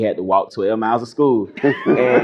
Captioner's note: laughter